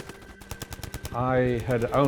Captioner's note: gun shots